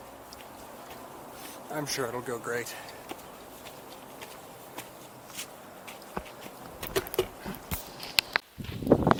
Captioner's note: sarcastically